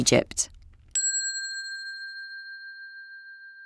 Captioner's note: bell dinging